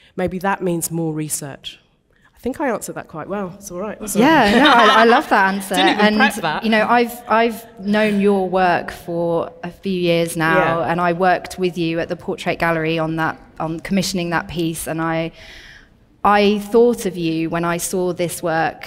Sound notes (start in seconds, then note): 4.2 audience laughing